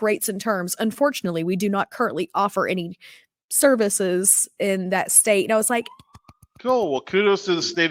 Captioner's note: clap